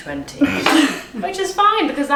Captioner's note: laughing